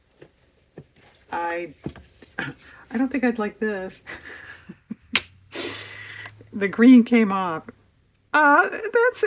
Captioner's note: laughs